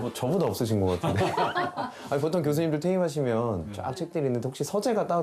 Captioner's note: hahahahaha